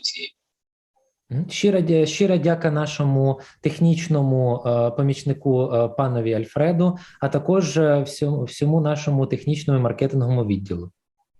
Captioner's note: foreign Language